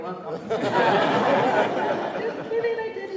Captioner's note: laughter